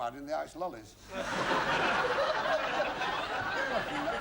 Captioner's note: laughter